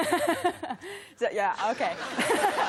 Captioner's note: laughs